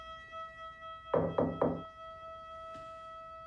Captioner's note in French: toc toc toc